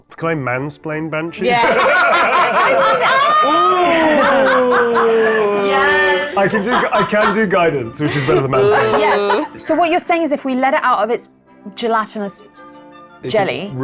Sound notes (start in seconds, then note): 1.4 everyone laughs